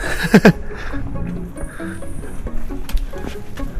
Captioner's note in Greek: γέλια